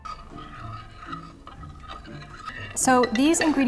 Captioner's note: concerned stirring